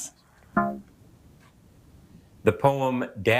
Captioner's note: womp chimes